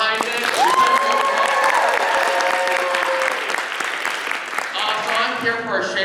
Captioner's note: cheering